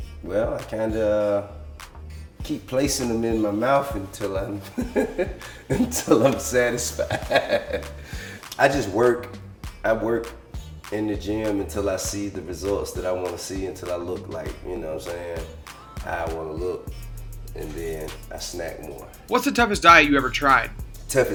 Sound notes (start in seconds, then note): 4.5 laughs